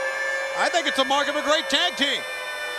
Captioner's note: air siren blaring